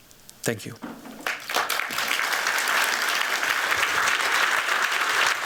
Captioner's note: applause